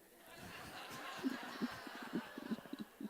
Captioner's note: laughter